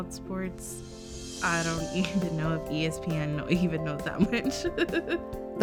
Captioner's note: laughs